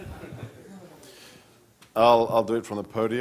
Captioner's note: laughing